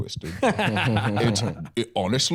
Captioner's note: laughing